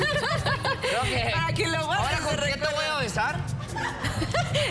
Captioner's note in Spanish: Risas